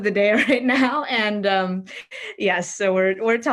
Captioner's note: laughs